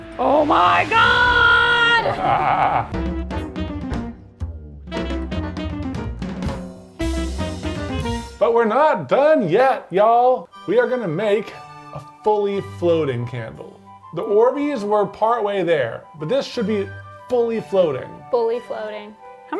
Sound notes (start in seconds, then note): 2.1 laughs maniacally; 3.0 upbeat jazz music